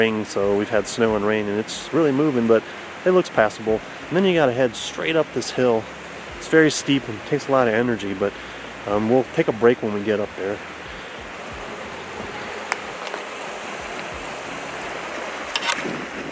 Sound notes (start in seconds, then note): 11.2 stream flowing; 13.4 twigs crackling